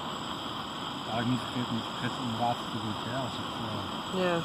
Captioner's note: boiling